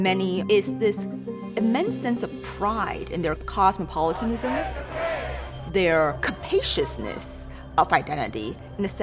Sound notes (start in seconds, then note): 4.0 crowd chants